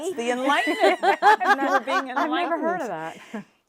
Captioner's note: laughing